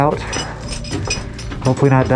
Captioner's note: metallic clanking; breathing hard